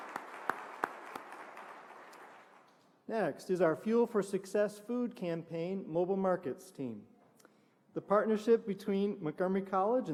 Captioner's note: applause